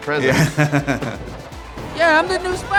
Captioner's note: laughs